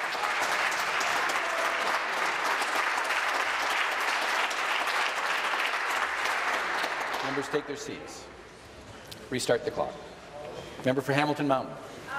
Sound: applause

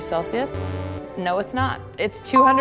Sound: buzzing

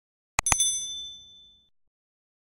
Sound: mouse clicking; notification bell chimes

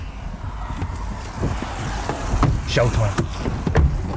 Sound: car doors opening and closing

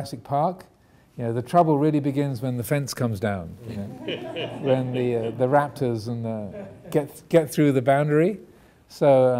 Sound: audience laughing

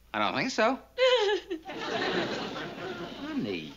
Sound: sobs

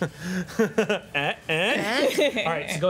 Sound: conspiring noises and laughing

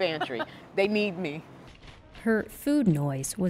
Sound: laughter

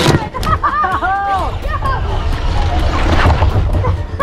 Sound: laughs

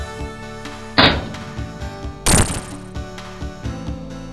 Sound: graphics popping

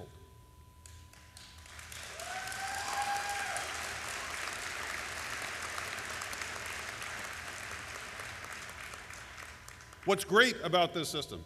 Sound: applause and cheering

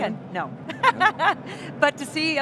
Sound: laughing

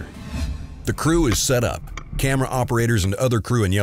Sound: voiceover

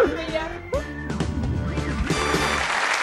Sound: applause

